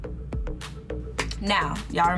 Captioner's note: upbeat electronic music; claps